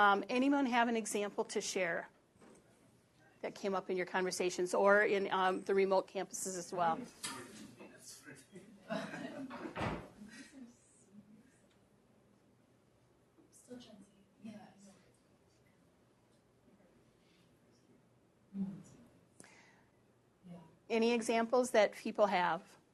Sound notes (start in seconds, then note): 8.7 pause